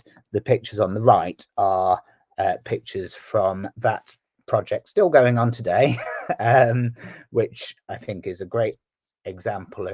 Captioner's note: laughs